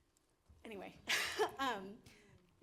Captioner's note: laughs